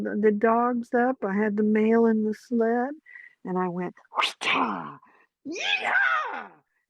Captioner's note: whip sound